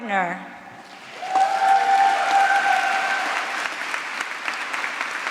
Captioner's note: applause